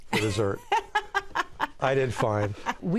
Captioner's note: laughs